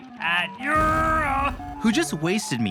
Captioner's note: exploding sound effect, groans